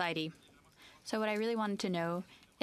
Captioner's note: speaking French